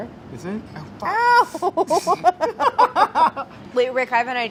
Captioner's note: laughter